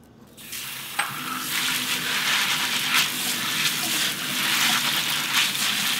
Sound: water running

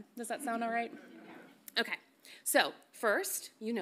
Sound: none

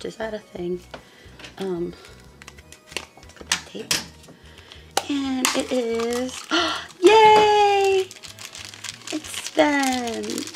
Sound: gasp

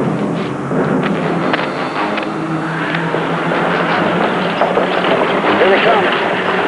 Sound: wagon wheels rattling

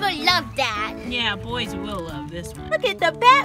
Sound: voiceover

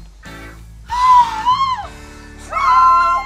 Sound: Maha gasps

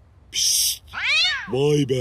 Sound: cat sound

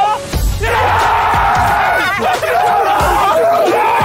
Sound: Sidemen cheering

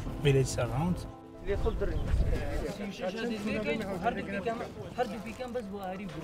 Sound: people speaking in foreign language

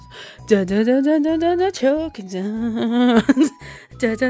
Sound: laughs

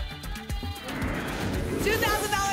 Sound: whoosh

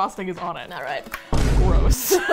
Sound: boom; both laugh

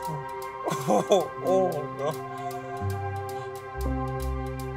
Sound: Flavio groaning

